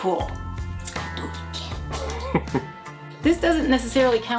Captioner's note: chuckling